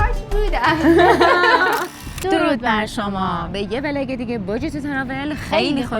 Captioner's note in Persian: خنده